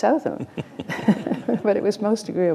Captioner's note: laughter